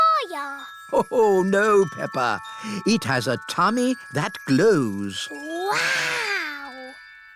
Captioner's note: laughs